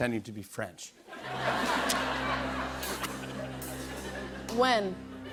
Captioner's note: laughter